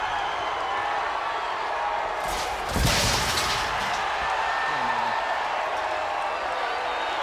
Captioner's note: crowd cheering; footsteps plodding; shelves thudding